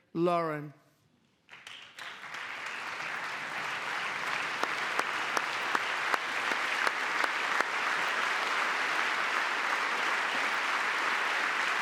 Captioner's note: applause